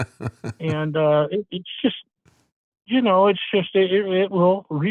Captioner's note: laughing